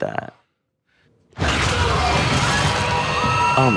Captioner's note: Joyce screaming